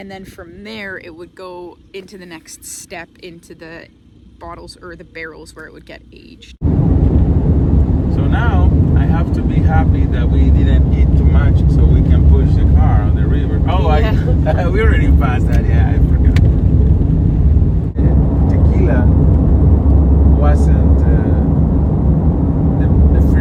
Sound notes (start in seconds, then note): 12.9 chuckles